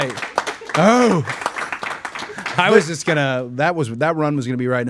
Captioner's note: everyone applauding